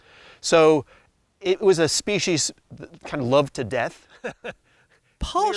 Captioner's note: laughs